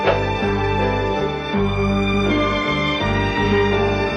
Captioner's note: phone clinking